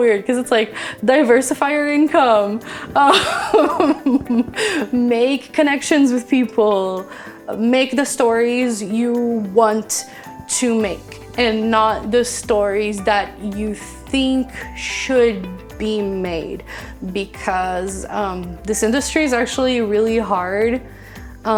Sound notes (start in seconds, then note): 3.0 laughing